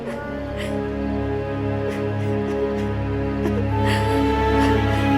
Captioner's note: Moses' mother cries